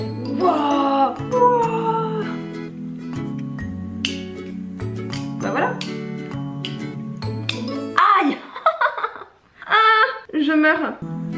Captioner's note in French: cri de douleur